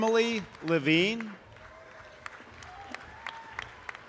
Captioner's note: audience applause